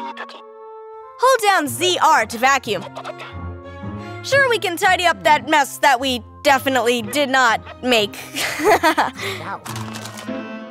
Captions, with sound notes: Hold down ZR to vacuum. Sure, we can tidy up that mess that we definitely... did not... make. [giggles]